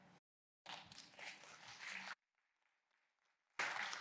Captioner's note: applause